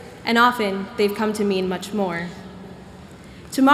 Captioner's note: none